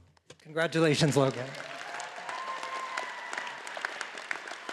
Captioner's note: all applauding